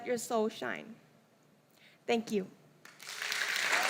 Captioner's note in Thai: เสียงปรบมือ